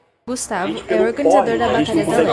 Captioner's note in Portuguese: barulho da plateia se dispersando ao fundo